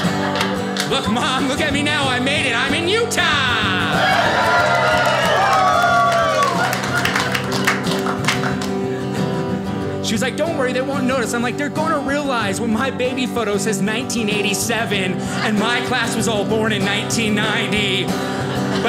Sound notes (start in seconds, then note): 3.6 audience cheers